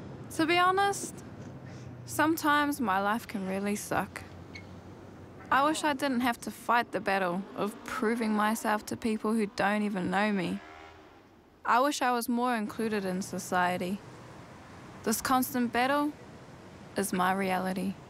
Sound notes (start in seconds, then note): none